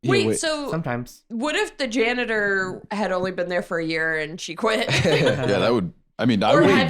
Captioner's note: laughs